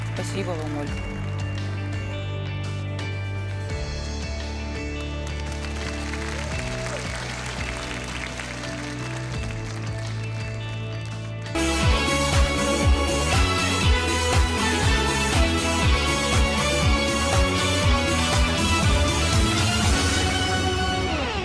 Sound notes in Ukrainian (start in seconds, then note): 6.2 оплески